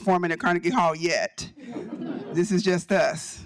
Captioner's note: audience chuckling